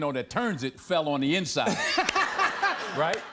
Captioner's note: laughter